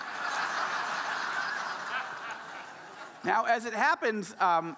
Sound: audience laughing

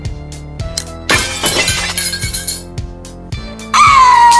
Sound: glass breaks

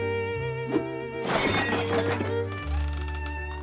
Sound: objects clatter

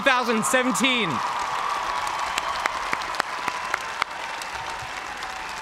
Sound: cheers and applause

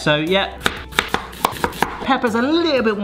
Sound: knife chopping

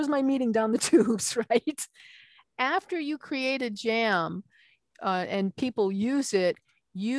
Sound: laughing

